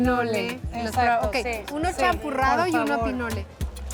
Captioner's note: speaking Spanish